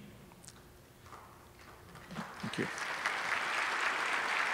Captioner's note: applause